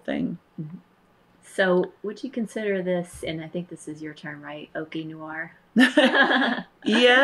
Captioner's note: laughter